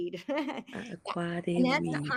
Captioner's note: chuckles